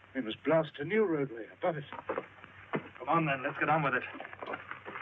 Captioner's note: picks thudding